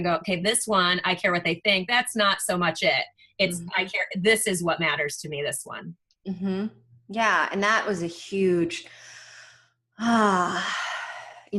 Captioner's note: deep breath